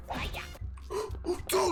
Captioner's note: gasp